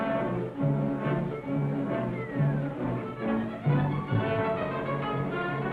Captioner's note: hoppy whistles